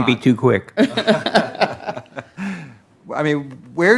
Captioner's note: laughing